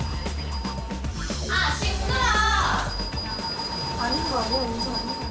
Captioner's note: the constant ringing of the bell